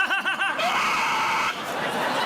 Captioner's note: shrieks